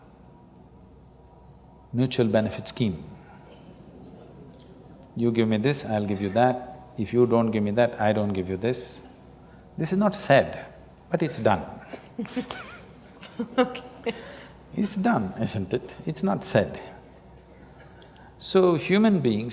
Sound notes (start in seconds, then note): 11.9 laughs; 11.9 laughter